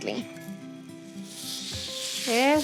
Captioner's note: sizzling